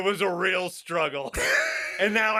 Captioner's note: cackling